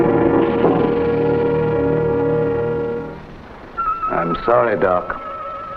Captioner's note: cage door closing; serpent rattles